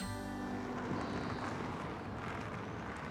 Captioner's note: gravel crunches